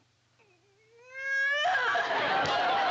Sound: wailing

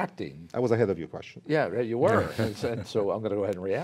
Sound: laughter

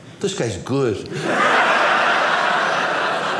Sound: audience laughing

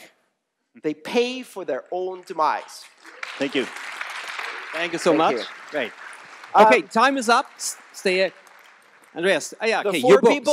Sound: applause

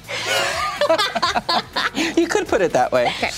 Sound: laughing

